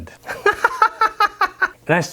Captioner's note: laughs